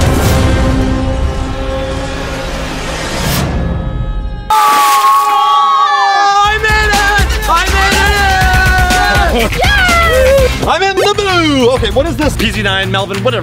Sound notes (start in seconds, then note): 3.6 screaming loudly; 5.1 water splashes